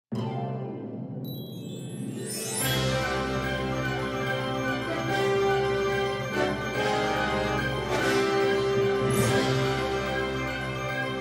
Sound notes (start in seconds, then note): 0.0 inspirational music; 2.2 chimes; 9.3 chimes